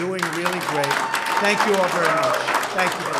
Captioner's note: applause